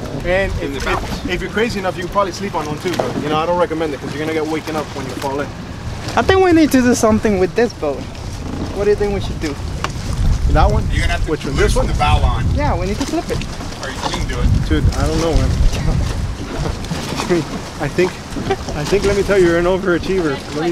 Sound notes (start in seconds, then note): 16.1 chuckling; 16.1 laughing